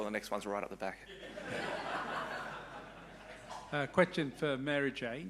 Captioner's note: audience laughing